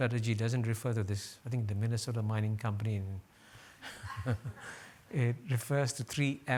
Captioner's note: chuckles